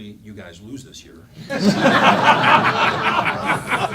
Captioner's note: laughing